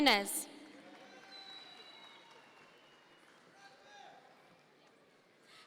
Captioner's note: audience members cheer